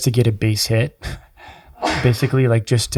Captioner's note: chuckles